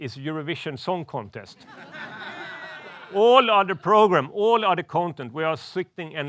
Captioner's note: laughs